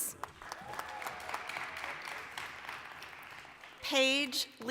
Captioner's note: applause